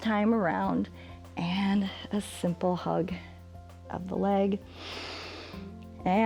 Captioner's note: exhales; inhales